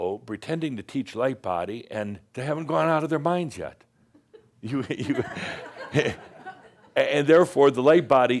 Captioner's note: some chuckles